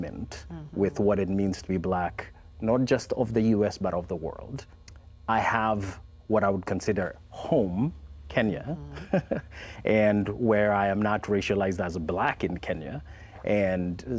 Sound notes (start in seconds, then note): 8.7 chuckles